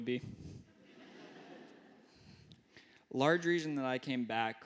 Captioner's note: laughter